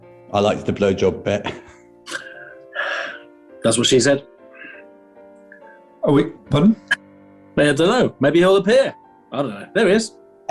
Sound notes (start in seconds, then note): 2.0 sighs